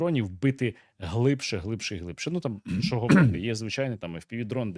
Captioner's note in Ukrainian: прочищення горла